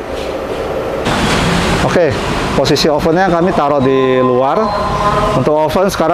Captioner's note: praying sound